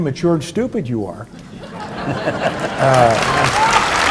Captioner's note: audience laughs; audience applauding